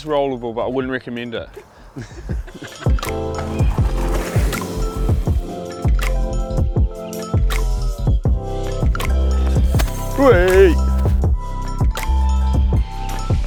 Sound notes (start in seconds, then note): 1.4 laughs